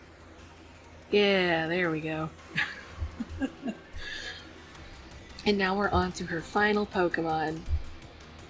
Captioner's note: laughs